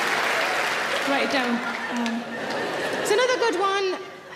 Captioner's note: audience laughing